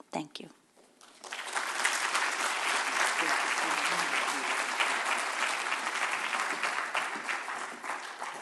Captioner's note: applause